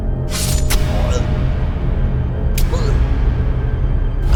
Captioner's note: Scott screams; knife slices; Scott gasping